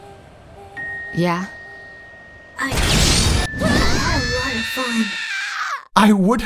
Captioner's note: vocal chord eviscerating death screech